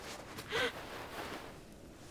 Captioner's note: Genevieve gasps